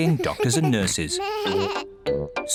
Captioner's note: both laughing; bleats